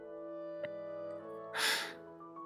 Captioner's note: sighs